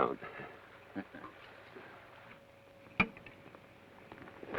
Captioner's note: Joshua chuckles